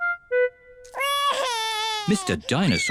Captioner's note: wails